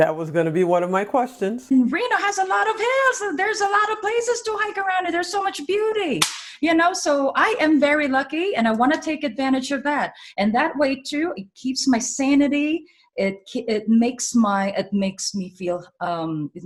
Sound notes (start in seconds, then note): none